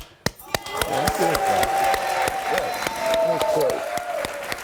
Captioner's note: clapping and cheering